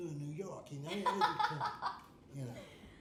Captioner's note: laughing